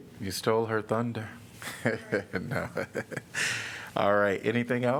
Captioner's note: laughter